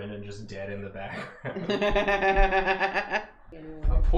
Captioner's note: laughing